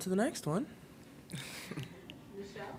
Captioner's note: chuckling